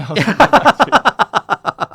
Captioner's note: laughing